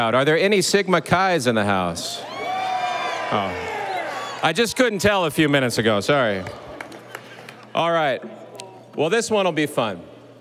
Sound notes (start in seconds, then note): 2.2 audience cheering